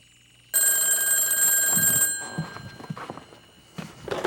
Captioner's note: phone ringing